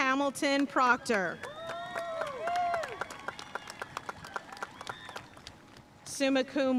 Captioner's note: audience cheering and applauding